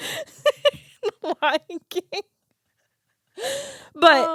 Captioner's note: both laughing